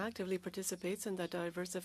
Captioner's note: speaking French